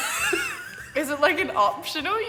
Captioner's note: laughing